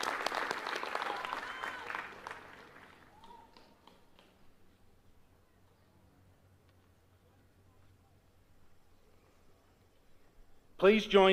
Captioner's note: applause